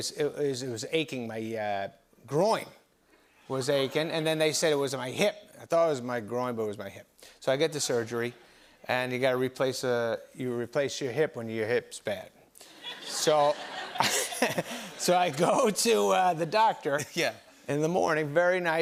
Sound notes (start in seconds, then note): 12.7 laughter